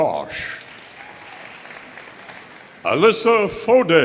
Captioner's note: audience applauding